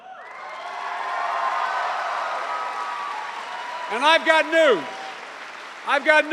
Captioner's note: cheers and applause